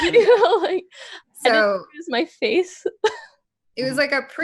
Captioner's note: laughs